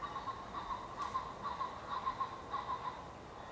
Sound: sound of cock pheasant

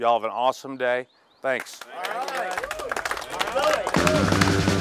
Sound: team applauding; high energy rock music

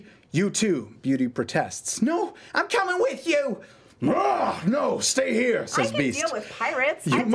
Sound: roars

